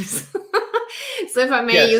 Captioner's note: laughs